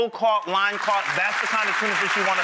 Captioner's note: audience applauds